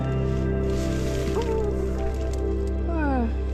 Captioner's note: rustling around like a sleepy hamster; yawn